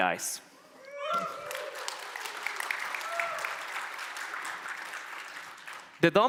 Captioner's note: applause